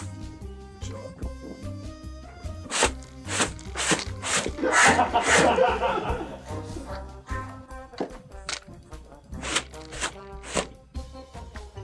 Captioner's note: audience laughter